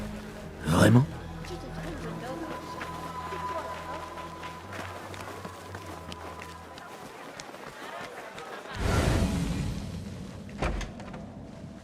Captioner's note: applause